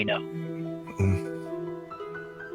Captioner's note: grunts